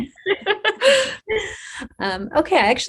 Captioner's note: laugh